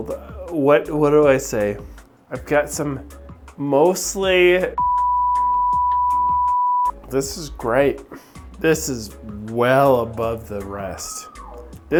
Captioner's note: beep